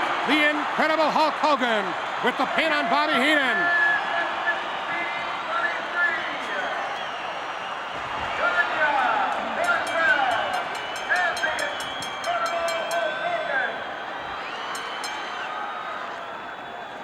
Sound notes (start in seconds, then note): 13.3 bell rings